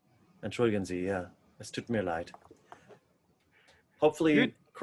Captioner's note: speaking in foreign language